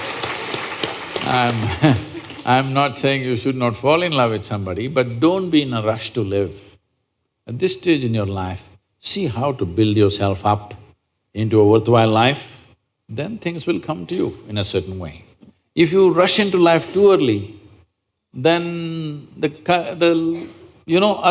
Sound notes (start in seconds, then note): 0.0 laughter/Applause; 1.2 laughs